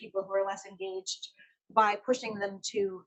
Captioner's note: none